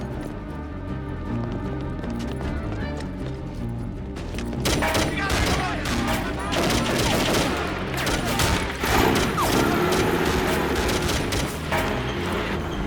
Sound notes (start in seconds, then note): 4.6 gunfire clattering; 5.1 people yelling; 8.8 engine revving